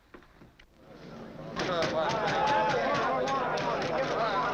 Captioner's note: crowd chattering